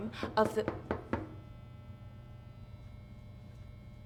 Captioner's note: knocking at the door